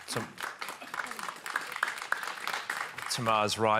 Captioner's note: applause